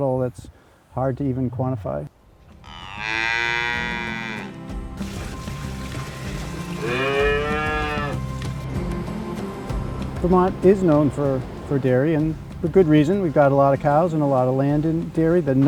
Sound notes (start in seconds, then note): 2.6 cow mooing; 2.8 upbeat music; 5.0 milk splashing; 6.7 cow mooing